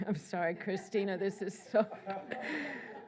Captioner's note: laughs